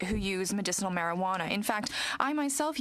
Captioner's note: speaking french